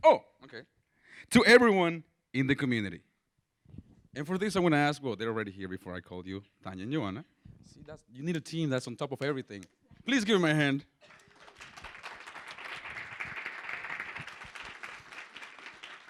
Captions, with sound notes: oh, to everyone in the community. And for this I want to ask-- well, they're already here before I called you, [SPANISH SPEECH].. See that's-- you need a team that's on top of everything. Please give him a hand. [APPLAUSE]